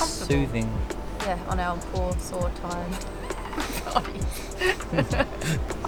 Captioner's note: laughs